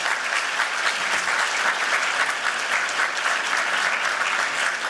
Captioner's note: applause